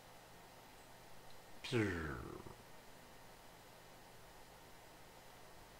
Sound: imitating some sound

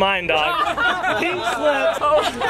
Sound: laughs

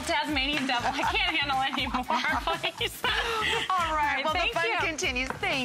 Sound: laughter

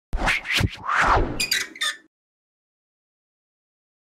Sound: logo screeching

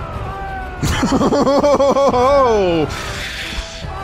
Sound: laughs

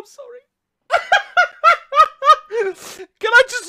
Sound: still laughing

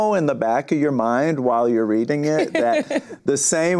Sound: laughs

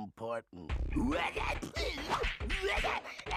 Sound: gibbering

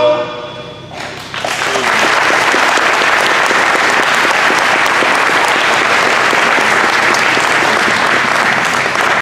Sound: applause

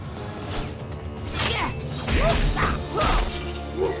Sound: grunting

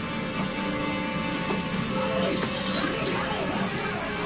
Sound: cat toy jingles

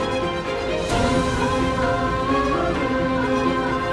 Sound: emotional vocalising

